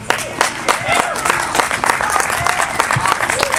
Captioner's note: applause